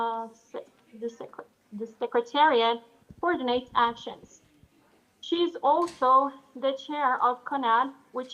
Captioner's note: speaks Portuguese